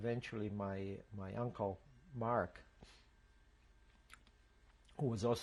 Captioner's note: pauses for 3 seconds